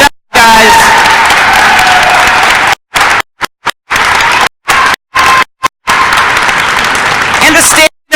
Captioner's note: crowd cheering and applause